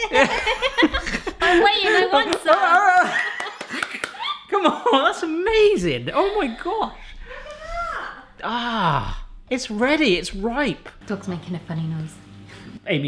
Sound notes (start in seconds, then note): 2.0 laughing; 2.9 cheering